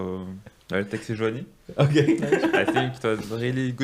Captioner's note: laughing